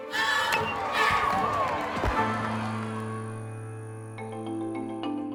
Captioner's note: crowd cheering; gentle percussive music